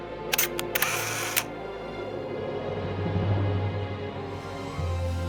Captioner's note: camera shutter clicks